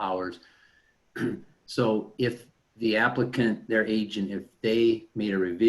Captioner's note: clears throat